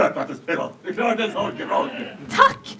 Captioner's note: audience laughs